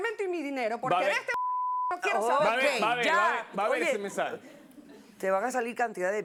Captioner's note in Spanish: Bip; Bip